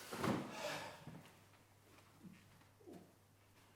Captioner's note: sighs